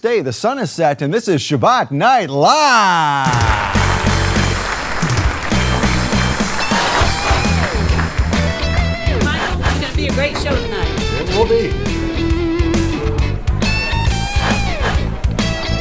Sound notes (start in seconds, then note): 3.2 audience applauding; 4.0 lively blues-rock music